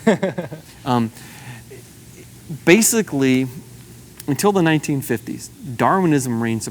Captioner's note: laughs